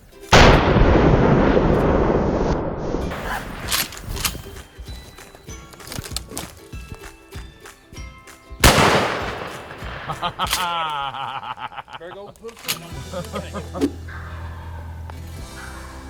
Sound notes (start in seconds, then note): 0.5 gun fires; 3.1 reloading gun; 8.6 gun fires; 15.3 turkey calls